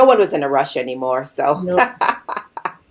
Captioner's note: laughing